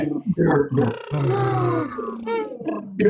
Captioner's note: trill sounds